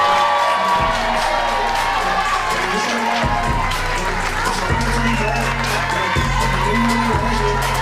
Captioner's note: cheers and applause